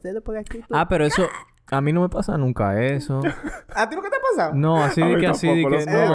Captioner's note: laughs